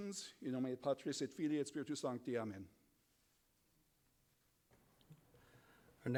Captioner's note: speaking in foreign language